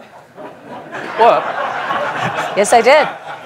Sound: laughter

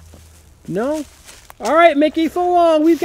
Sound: voiceover

